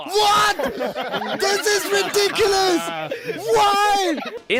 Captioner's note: crowd laughs